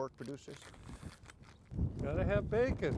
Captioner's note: plastic crunching